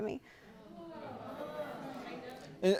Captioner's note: courtroom gasping